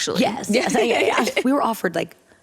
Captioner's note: laughter